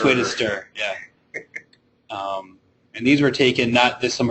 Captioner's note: chuckling